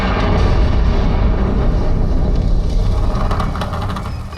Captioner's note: eerie creaking